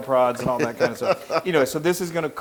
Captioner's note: laugh